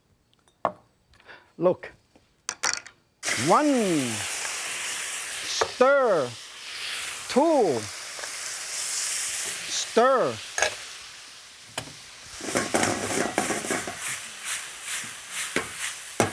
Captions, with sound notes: any extra oil, okay. Look, one, stir, two, stir (meat sizzling)